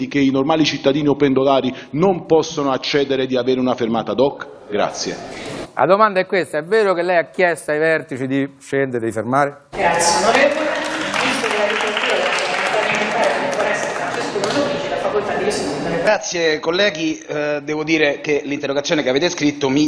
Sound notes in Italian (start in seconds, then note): 9.8 Applauso